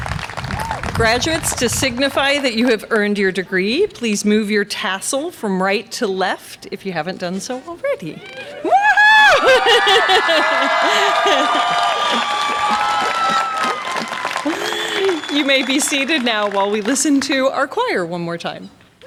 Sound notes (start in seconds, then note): 10.1 graduates cheer